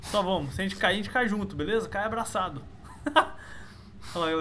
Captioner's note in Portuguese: risos